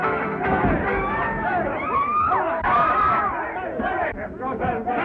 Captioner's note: screams; cheering for fighters